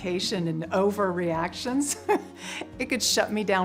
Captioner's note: chuckles